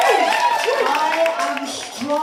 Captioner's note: applause